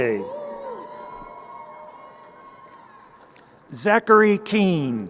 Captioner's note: crowd cheering